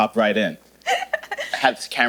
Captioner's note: laughing